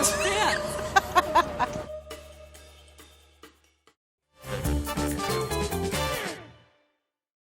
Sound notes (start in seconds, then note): 0.1 laughs; 4.4 jazzy music